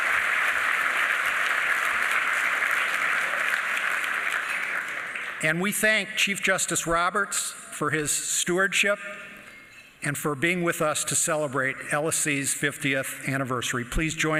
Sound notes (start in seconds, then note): 4.4 applause